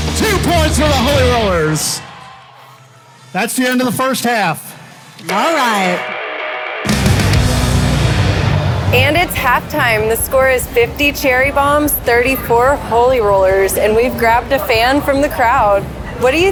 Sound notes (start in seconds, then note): 2.0 crowd cheering; 6.0 bright rock music